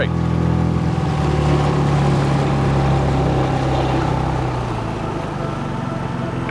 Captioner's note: motor burbling; gentle music